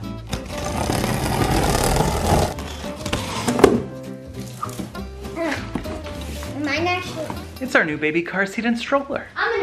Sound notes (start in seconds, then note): 0.4 scratches